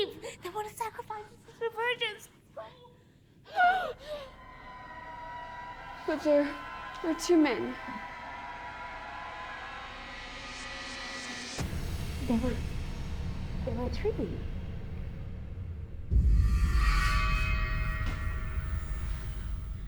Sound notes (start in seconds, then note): 3.4 Alicia gasping; 3.5 tense music; 16.3 tense music